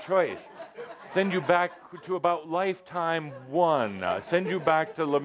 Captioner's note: laughter